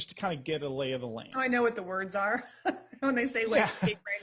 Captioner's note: chuckles